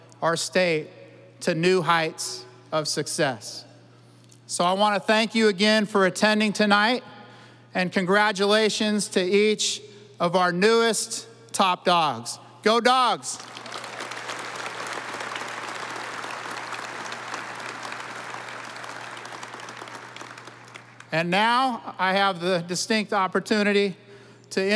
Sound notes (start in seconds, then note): 13.4 audience applauding